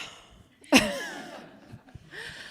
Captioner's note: laughter